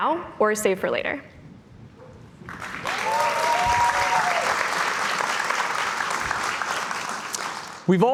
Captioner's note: cheers and Applause